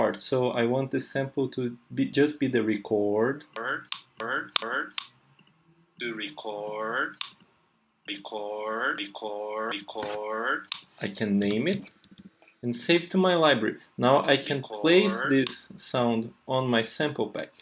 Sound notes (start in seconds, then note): 4.2 clicks and edits sound